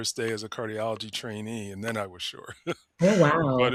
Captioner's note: chuckles